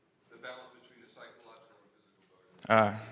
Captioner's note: speaking faintly